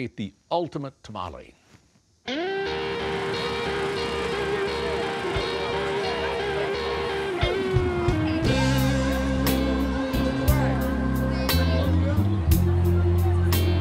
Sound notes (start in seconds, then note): 3.0 blues music; 9.6 crowd noise